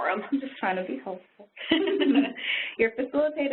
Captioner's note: laughing